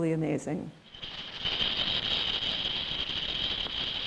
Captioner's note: rattling